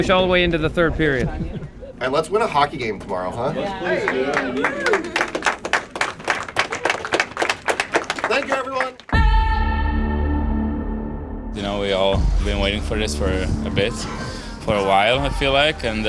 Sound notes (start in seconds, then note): 3.6 group murmurs and applauds; 9.1 dramatic music